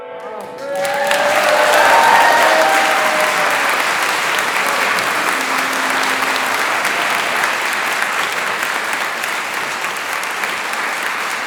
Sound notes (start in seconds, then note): 1.8 applause